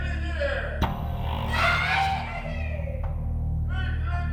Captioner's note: inmate shouting